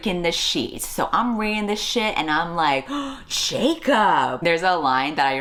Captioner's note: gasps